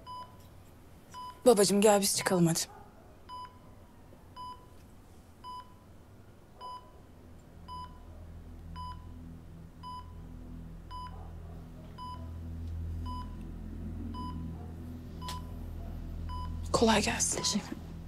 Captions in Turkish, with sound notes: Babacığım gel biz çıkalım hadi. [Nabız Sesi] -Kolay gelsin. -Teşekkürler.